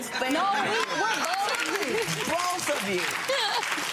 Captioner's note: audience laughing; laughs; audience clapping